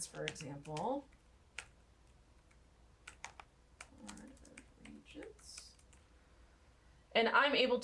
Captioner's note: typing